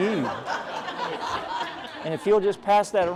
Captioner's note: laughter